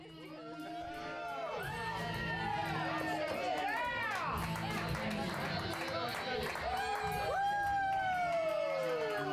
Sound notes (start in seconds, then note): 7.1 audience cheering; 7.1 upbeat rock music